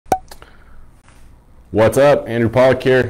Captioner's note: popping